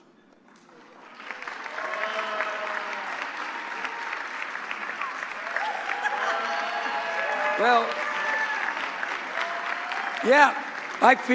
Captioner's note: applause